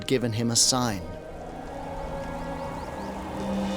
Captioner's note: wind whistling